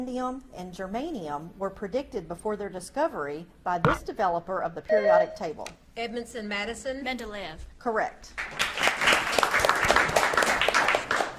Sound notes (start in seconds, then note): 3.8 buzzer beeps; 8.4 audience claps